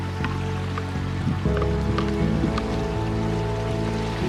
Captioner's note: water splashing